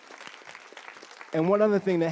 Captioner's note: applause